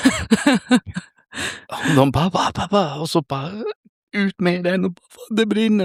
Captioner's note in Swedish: skratt